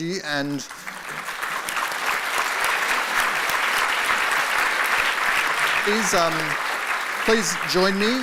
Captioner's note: applause